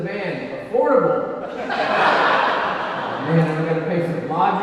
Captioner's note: audience laughing